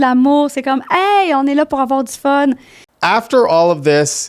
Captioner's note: in french